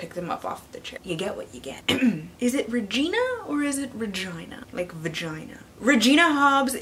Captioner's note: ahem